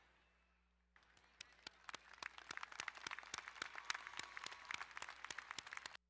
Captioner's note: crowd cheering and applauding